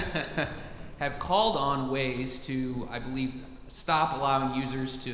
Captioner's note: laugh